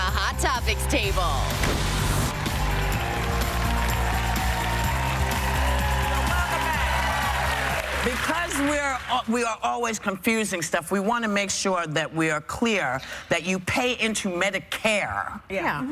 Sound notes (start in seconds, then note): 2.0 cheers and applause